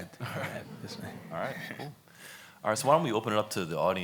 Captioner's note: laughs